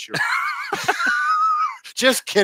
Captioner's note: both laughing